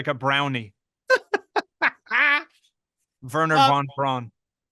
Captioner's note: laughing